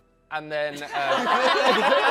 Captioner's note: laughter